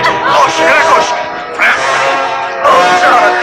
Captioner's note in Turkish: Kavga ortam gürültüsü